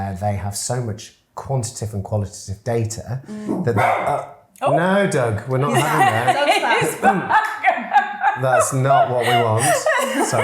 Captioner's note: dog barks